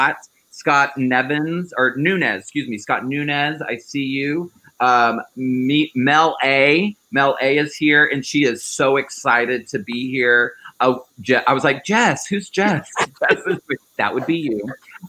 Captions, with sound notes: Scott Nevins or Nunes. Excuse me, Scott Nunes, I see you. Mel A, Mel A is here and she is so excited to be here. I was like Jess, whose Jess? (laughing) That would be you.